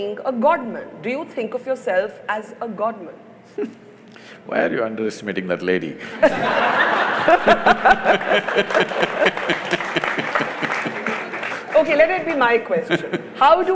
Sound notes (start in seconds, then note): 6.0 laughs; 8.7 laughter/Applause; 12.6 Sadhguru laughs